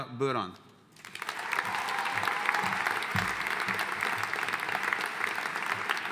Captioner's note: audience cheering and applauding